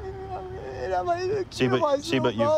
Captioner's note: crying